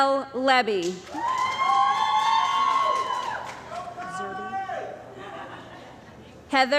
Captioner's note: cheering & Applause